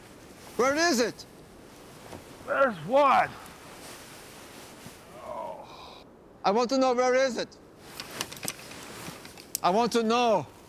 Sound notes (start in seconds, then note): 5.0 groans